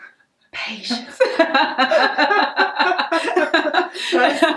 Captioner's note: both laugh